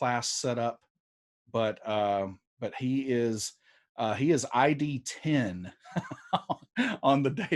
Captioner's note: laughs